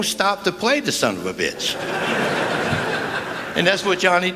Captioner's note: laughter